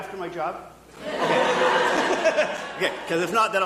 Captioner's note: audience laughing